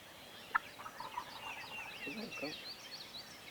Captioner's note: faint turkey gobbling; birds tweeting